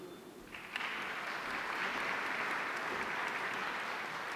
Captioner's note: audience applauding